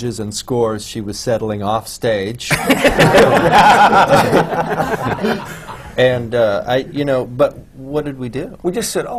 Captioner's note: laughter